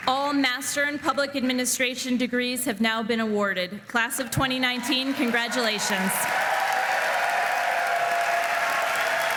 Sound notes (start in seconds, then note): 4.7 applause